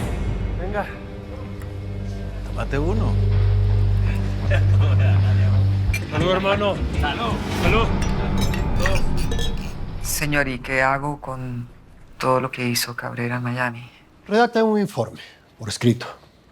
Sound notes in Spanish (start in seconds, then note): 7.9 Sonido al chocar los vasos